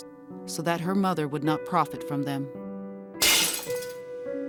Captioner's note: glass breaking